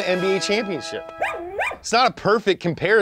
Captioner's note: dog whines